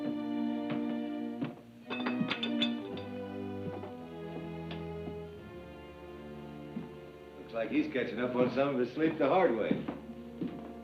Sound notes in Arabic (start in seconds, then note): 1.8 أصوات الأطباق